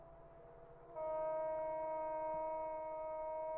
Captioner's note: train horn in distance